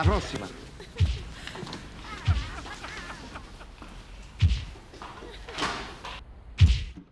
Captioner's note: laughter and sound of head banging against the wall